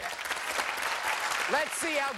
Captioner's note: cheers and applause